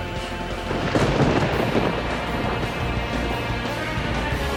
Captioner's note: lightning cracking; catchy rock music